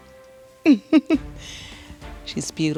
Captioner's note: chuckles